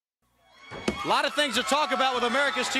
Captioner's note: crowd cheering